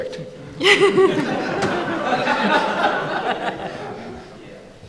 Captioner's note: audience laughing